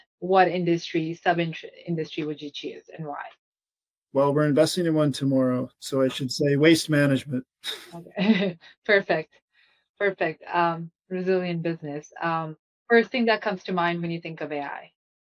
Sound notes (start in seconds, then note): 7.6 chuckles